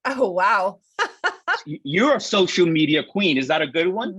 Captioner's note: laughs